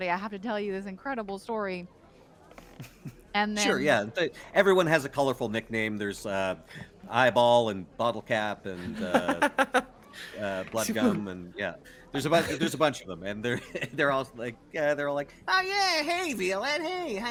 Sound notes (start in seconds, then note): 2.7 game Master laughs; 8.8 laughs; 13.6 chuckles